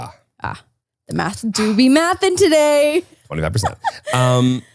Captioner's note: laughs